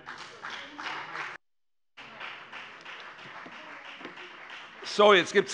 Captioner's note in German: Beifall bei der FDP - Zurufe von der CDU : Nein!